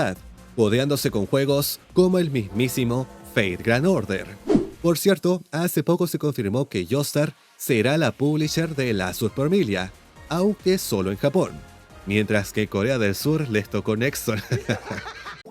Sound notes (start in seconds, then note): 14.4 haha